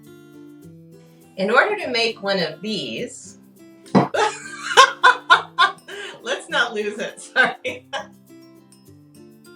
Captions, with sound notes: In order to make one of these. (laughs) Let's not lose it. Sorry.